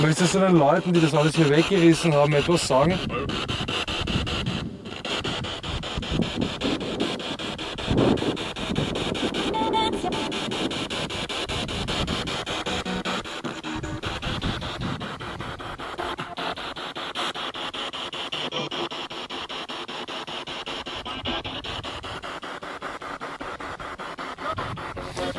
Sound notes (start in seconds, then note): 4.1 radio noise from the spirit box